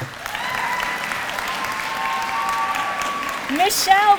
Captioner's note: applause